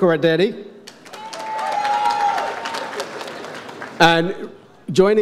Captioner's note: audience applauds